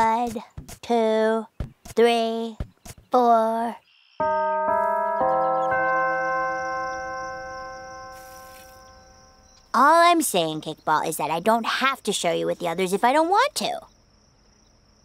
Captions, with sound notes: One, two, three, four [CHURCH BELLS] All I'm saying, kickball, is that I don't have to share you with the others if I don't want to.